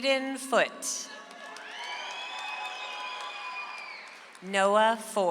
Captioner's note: audience applauds